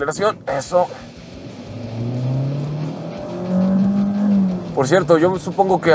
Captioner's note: engine roaring